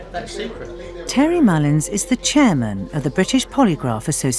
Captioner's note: voiceover